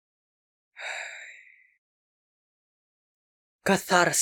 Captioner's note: exhale